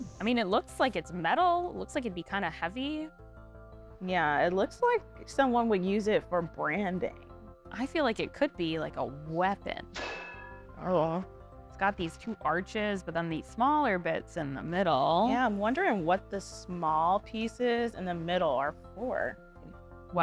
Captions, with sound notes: - I mean, it looks like it's metal. It looks like it'd be kind of heavy. - Yeah, it looks like someone would use it for branding. - I feel like it could be, like, a weapon! [metal clanking] - Oh. - It's got these two arches, but then these smaller bits in the middle. - Yeah, I'm wondering what the small pieces in the middle are for.